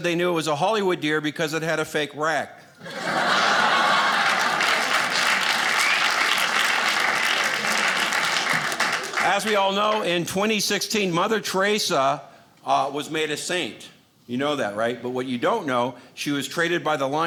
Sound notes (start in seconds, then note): 2.8 audience laughing; 5.2 audience clapping